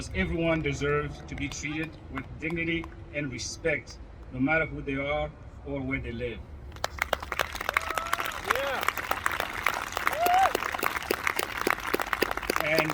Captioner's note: applause